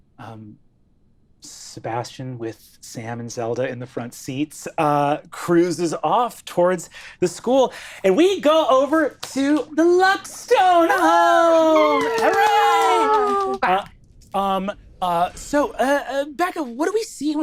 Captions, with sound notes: Sebastian with Sam and Zelda in the front seats, cruises off towards the school. And we go over to the Luckstone home. (all cheering) Hooray! So, Becca, what do we see